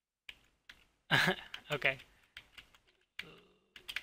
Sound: laughs

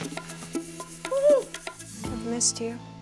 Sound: gasps

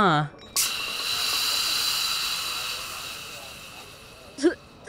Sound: drinks spattering; Turon laughing

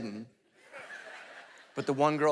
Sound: congregation laughing

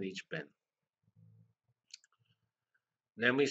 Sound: pause

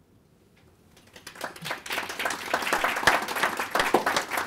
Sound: applause

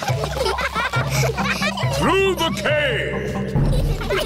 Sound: echoing

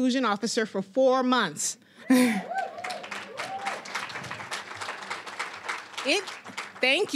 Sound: applause, cheering

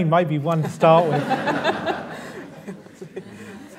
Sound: laughter

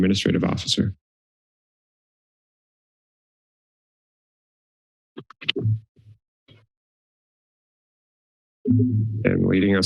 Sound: silence

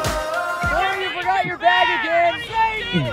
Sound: voiceover

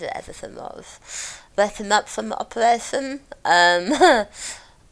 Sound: laughs

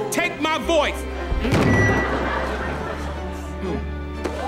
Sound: feedback

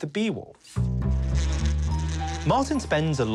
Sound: buzzing

